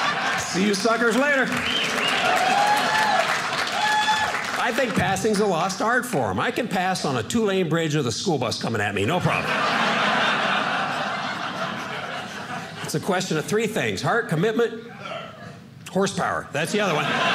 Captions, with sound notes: See you suckers later. (audience cheering) I think passing is a lost art form. I could pass on a two lane bridge with a school bus coming at me. No problem. (audience laughing) It's a question of three things-- heart, commitment, horsepower. That's the other one.